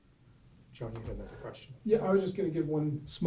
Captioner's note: voiceover